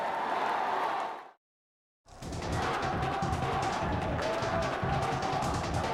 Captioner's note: crowd cheering